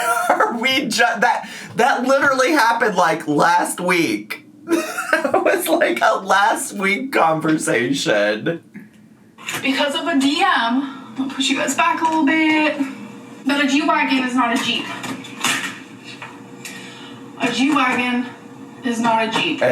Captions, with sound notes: That literally happened like, last week. (laughing) It was like, a last week conversation. - Because of a DM, I'm gonna push you guys back a little bit, but a G Wagon is not a jeep. A G Wagon is not a Jeep.